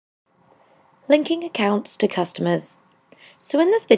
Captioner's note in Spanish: Voz en off